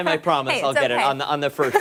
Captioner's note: laughter